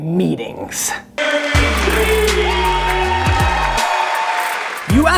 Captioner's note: applause